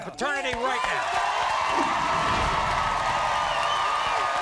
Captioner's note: crowd cheering